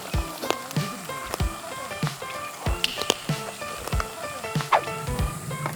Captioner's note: chews